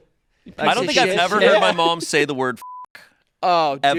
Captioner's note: beep